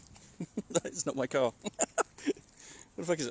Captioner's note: laughs